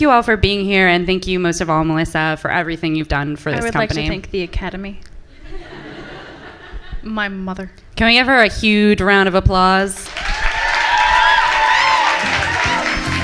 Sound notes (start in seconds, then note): 5.4 laughter from the audience; 10.0 applause and cheering from the audience